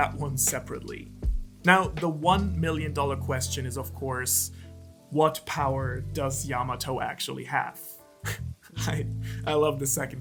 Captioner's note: laughs